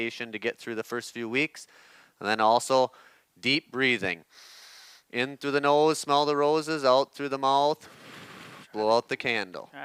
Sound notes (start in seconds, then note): 4.3 inhales heavily; 8.0 exhales heavily